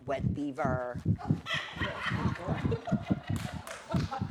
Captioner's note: laughter